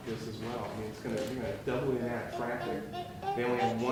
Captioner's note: speaking softly